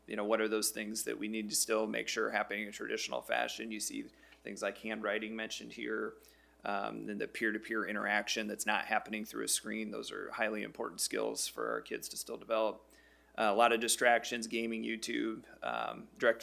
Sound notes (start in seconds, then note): none